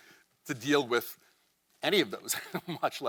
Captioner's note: chuckles